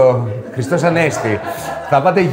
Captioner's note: laughter from the group